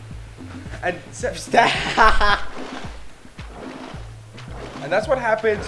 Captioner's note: laughter